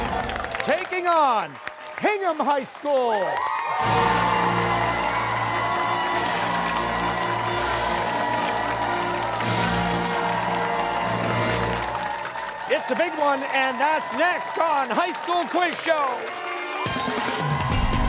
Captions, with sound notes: Taking on Hingham High School. (cheers and applause) It's a big one, and that's next on High School Quiz Show.